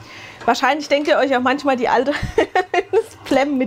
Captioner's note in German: gelächter